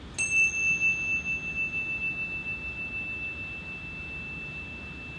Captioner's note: chime ringing